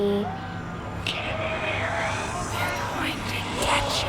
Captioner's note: ghostly Voice